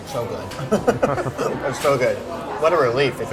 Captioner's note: men laugh